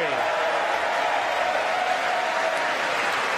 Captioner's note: applause